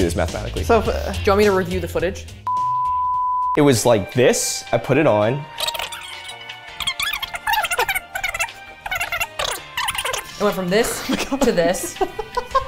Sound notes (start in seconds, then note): 2.5 stand-by tone; 5.8 video rewind tone